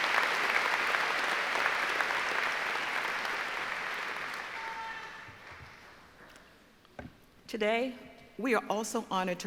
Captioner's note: applause